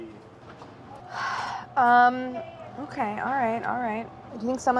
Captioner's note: sighs